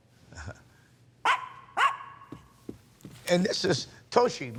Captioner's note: dogs barking